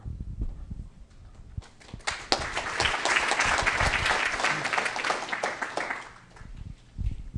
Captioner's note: applause